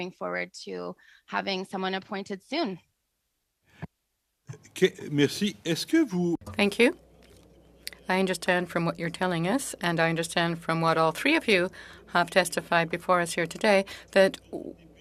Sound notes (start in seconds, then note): 8.6 speaking in French